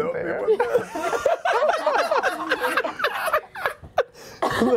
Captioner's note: laughter